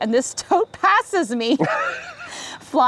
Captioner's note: group laughs